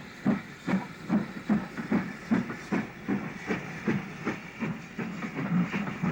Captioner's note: train passing